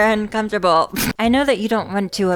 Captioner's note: pfft